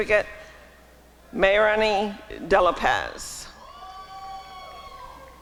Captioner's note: applause and cheering